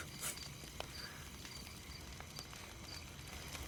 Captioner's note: chuckles